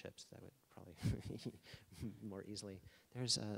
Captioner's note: laughing